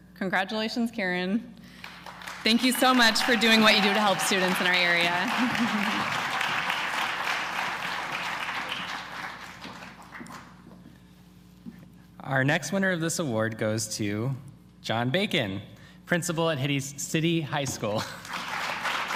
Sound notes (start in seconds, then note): 1.6 applause; 5.3 applause; 5.3 laughter; 18.0 laughter; 18.1 applause